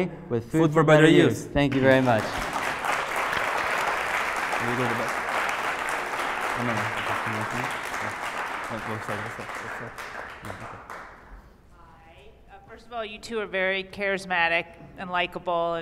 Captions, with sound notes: >> With food for better use. >> Thank you very much. [ Applause ] >> Hi, first of all you two are very charismatic and likeable